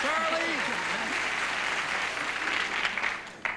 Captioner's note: applause